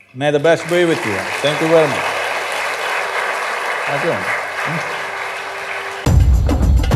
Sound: applause

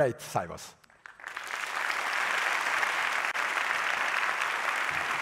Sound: audience applauding

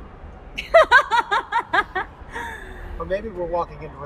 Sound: laughter

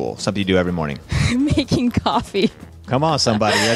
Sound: laughs

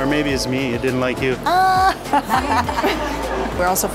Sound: laughs

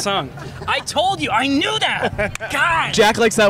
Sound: laughs

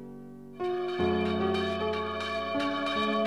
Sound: church bell ringing

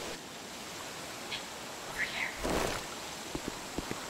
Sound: faint Woman's Voice

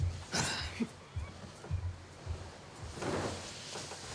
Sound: Kristal sighs

